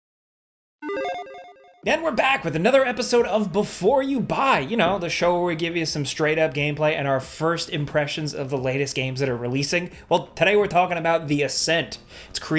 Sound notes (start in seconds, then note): 0.8 logo beeps